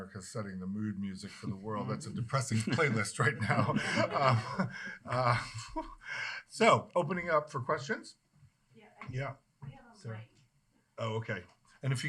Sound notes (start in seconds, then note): 3.9 laughing